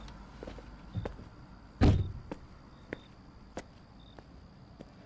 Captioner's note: car door slams